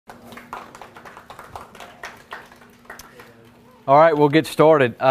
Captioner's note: audience applauding